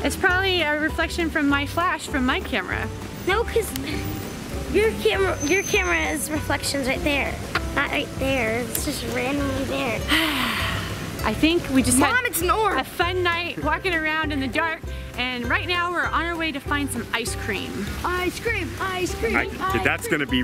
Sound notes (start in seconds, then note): 10.0 sighing